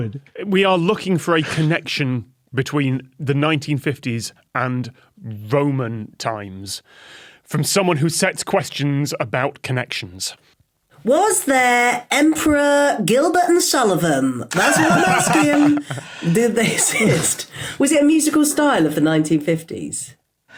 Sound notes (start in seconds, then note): 14.5 others laugh